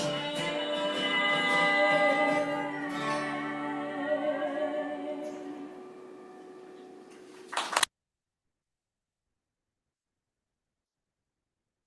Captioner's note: applause